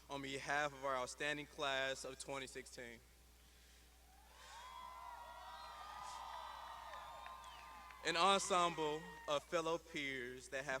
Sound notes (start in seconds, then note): 4.5 graduands shouting